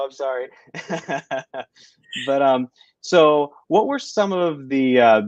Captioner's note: laughter